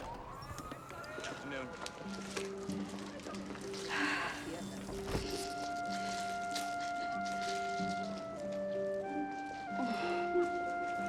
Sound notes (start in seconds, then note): 3.9 Kate sighs